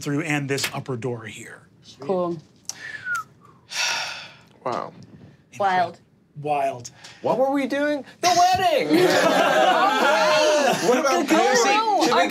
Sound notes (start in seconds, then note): 8.8 all laughing